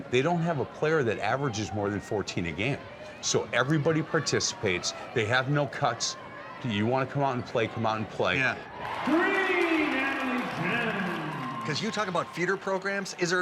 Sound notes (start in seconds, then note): 8.4 crowd cheering